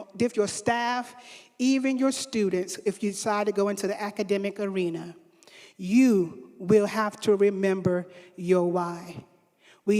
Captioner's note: none